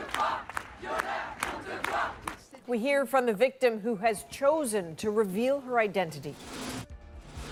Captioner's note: chanting